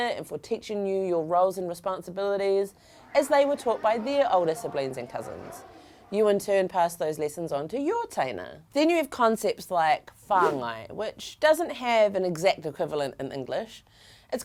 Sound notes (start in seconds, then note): 10.4 air whooshing